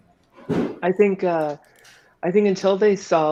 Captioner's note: clunk